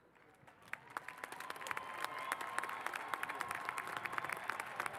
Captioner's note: cheers and applause